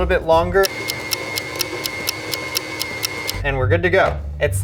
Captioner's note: clock ticking; motor humming